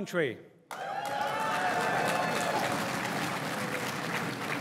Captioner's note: crowd cheering and applauding